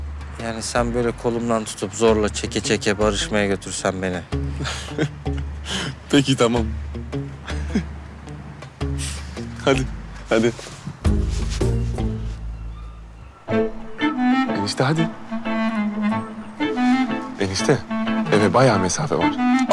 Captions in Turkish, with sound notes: Yani sen böyle kolumdan tutup, zorla, çeke çeke barışmaya götürsen beni. (Gülme sesi) Peki, tamam. (Gülme sesi) Hadi, hadi. Enişte hadi. Enişte, eve bayağı mesafe var.